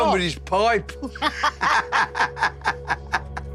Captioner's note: all laughing